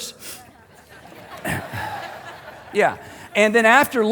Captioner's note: congregation laughing